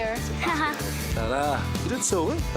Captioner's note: giggles